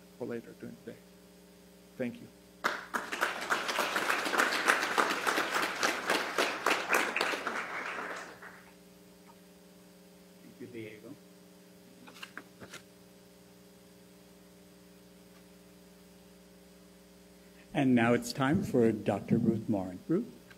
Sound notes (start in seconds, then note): 2.6 applause